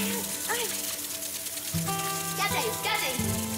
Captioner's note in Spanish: Sonido del agua; Exclamaciones